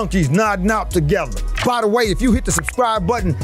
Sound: subscription bar clicks

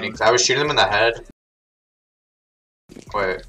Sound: silence

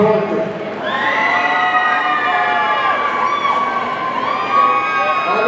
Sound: audience cheering

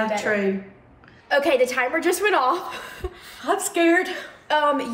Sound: laughs

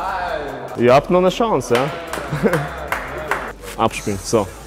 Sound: applause

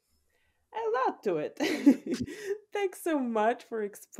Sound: laughs

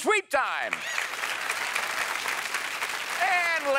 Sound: cheers and applause

